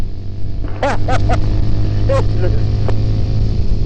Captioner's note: laughter